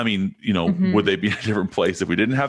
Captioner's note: chuckles